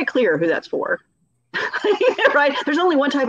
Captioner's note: laughing